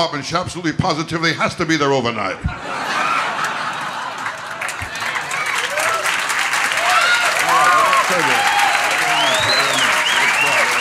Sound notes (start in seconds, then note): 2.4 audience laughter; 3.9 applause